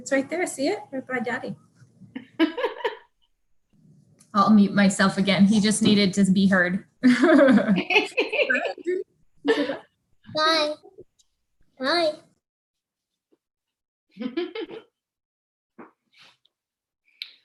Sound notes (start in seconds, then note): 2.2 laughs; 7.0 laughs